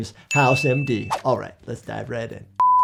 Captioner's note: alarm beeping; air whooshing